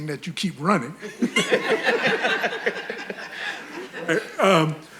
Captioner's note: audience laughing